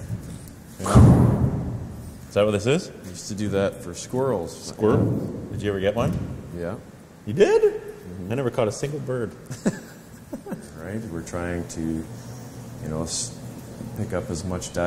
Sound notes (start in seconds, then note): 9.4 laughter